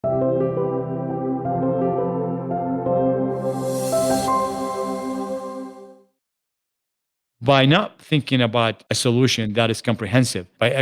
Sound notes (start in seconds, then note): 0.1 calming electronic music; 3.4 graphics twinkle